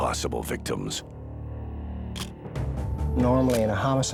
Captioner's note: camera shutter click